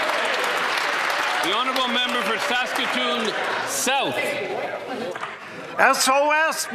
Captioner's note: applause